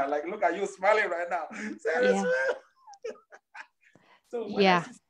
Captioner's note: laughs